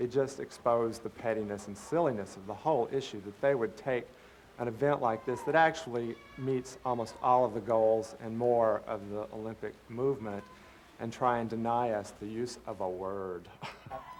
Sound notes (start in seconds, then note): 13.5 laughter